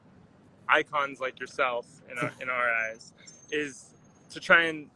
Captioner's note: laughs